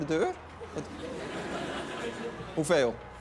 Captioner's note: laughter